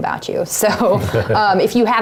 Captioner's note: laugh